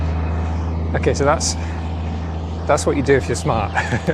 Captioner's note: engine Noise